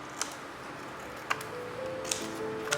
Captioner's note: scissors snipping